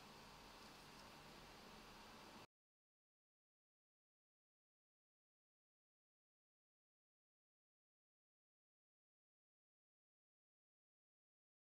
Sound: silence

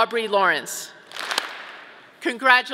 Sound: audience clapping

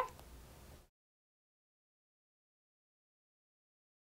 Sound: silence

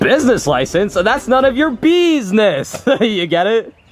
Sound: laughs

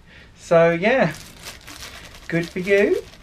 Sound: packets rustling

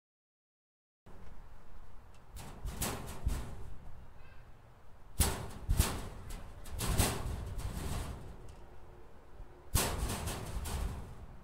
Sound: rattling metal shelves

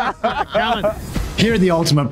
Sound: laughing

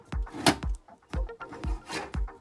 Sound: clunk

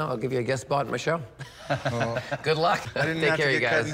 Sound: chuckles

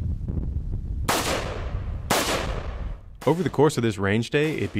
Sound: gun firing

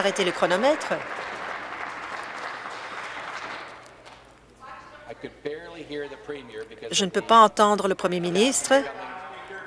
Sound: applause

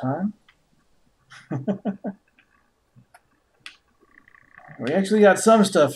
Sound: chuckles

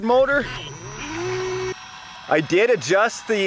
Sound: buzzing

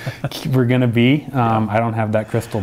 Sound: laughs

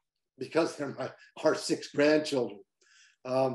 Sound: chuckles

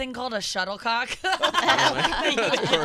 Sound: laughing

